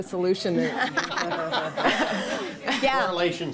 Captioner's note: laughter